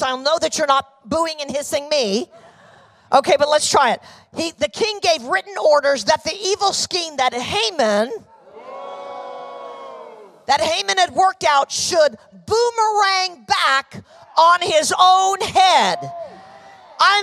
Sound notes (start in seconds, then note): 8.5 audience boos